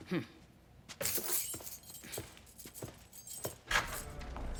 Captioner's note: keys jingle